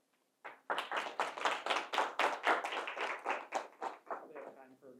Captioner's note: attendees clapping